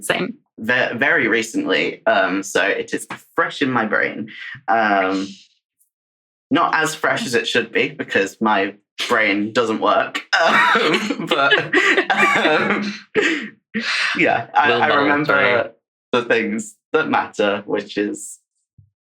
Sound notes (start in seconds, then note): 16.2 laughing